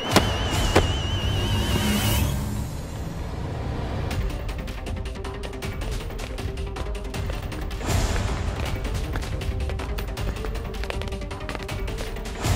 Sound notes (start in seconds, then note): 0.0 thuds on ground; 7.9 shoes clicking